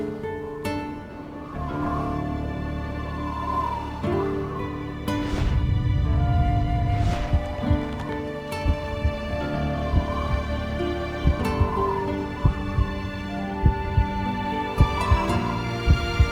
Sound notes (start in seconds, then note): 0.1 music softens; 5.6 low whooshing; 9.0 heartbeat thumping; 12.5 soft music